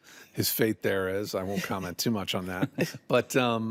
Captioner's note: chuckles